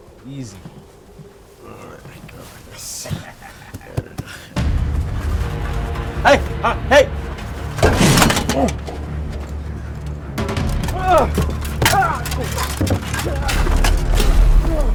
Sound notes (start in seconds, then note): 4.6 suspenseful music continues; 7.8 knife sheathing; 11.3 grunting